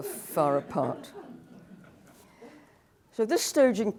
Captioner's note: laughter